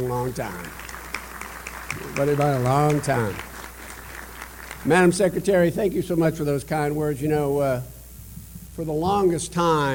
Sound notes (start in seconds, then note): 0.0 applause